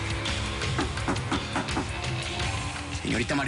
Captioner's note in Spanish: Toques en la puerta